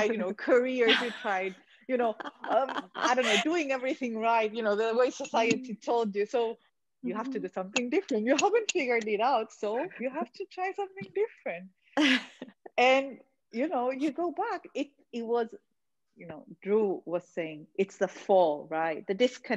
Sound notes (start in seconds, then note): 2.1 all laughing